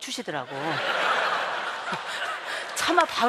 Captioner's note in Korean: 웃음